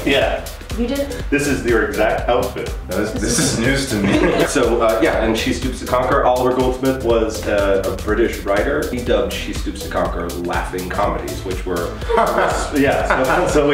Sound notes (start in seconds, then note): 3.1 laughing; 12.0 fake laughing